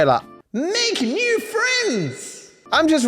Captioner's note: voice echoes